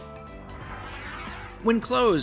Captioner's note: whoosh sound